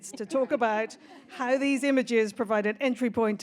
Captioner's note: audience laughs